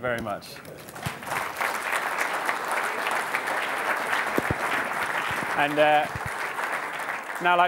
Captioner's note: applause